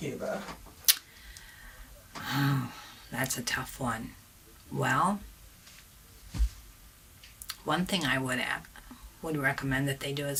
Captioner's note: sighs